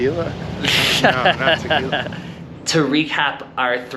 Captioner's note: giggles